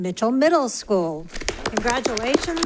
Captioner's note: applause